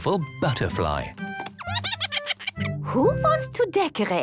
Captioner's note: giggles